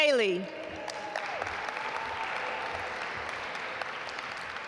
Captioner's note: audience applaud